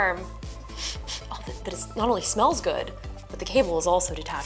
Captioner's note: sniffs